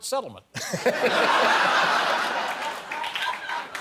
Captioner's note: laughter